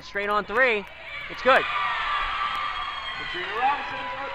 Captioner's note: crowd cheers